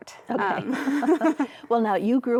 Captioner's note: laughs